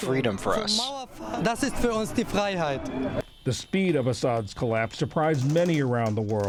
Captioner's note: voice-over